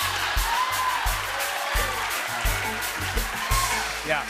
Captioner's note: cheering